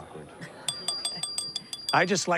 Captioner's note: glass clinking